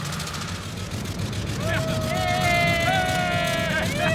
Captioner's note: men cheering